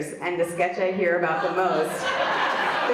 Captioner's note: audience laughs